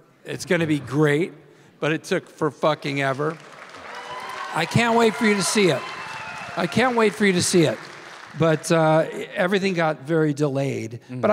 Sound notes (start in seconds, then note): 2.8 audience cheering and applauding